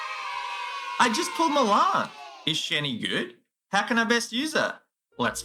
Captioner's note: cheer